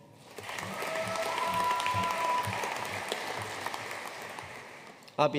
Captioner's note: audience cheering and applauding